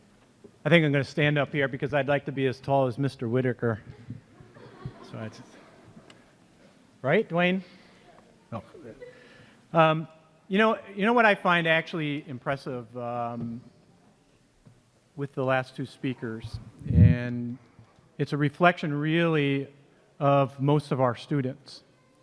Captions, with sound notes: - I think I'm gonna stand up here because I'd like to be as tall as Mr. Whitaker. (laughter) Right, Dwayne? You know what I find actually impressive with the last two speakers, and... It's a reflection, really, of most of our students.